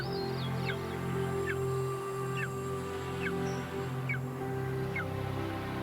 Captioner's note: birds screeching